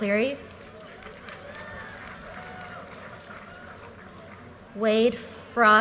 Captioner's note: audience cheers and applause